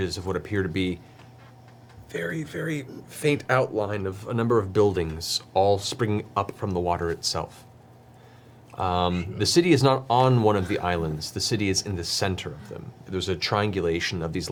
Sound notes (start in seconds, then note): 8.2 quietly